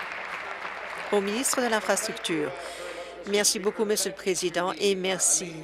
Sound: applause

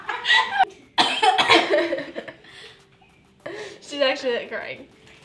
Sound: laughter; coughing

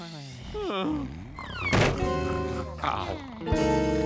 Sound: yawning

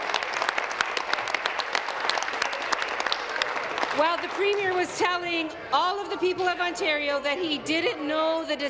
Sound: applause

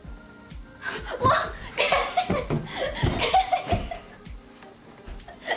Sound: laughter

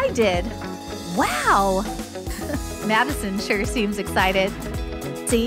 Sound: chuckle

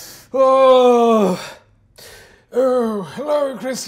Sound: groans heavily

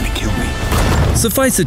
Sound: explosion sounds

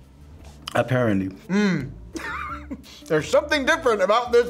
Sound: chuckles

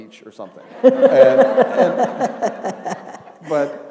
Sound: laughter

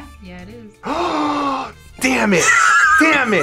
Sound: gasps

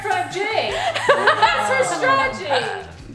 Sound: laughing

